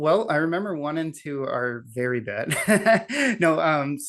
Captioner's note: laughs